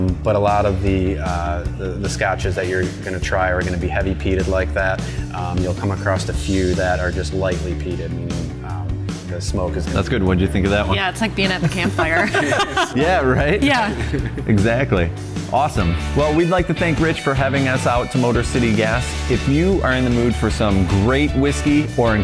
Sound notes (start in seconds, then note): 11.4 laughs